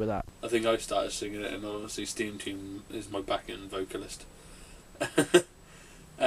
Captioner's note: laughs